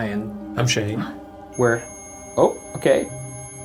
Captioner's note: EMF beeping